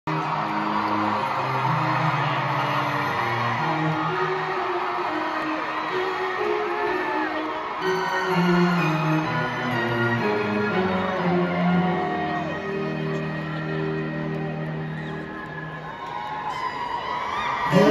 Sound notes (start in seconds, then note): 3.3 crowd screaming & intro music playing